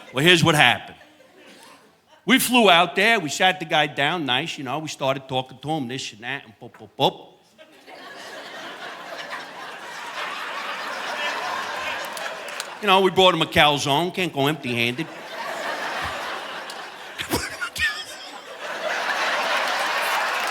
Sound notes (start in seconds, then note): 7.6 audience laughing; 16.1 audience laughing; 19.7 laughs